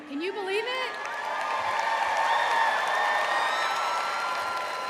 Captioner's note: audience cheering